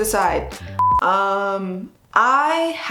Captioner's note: short beep